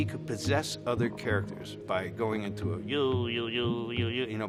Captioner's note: chants